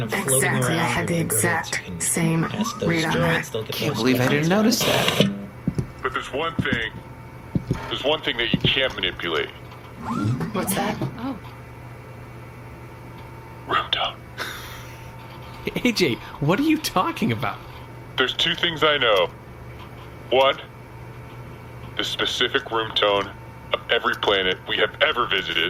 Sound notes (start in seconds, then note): 11.7 whispering